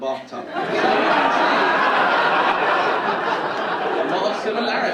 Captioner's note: audience laughing